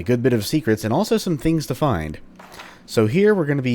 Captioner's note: journal opens